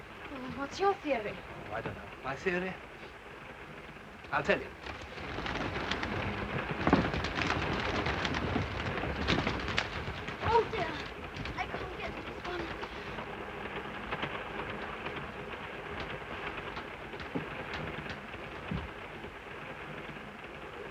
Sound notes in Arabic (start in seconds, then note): 5.0 رفرفة الأجنحة; 13.5 صوت خشخشة القطار